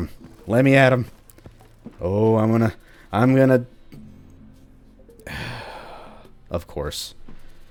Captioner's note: deep sigh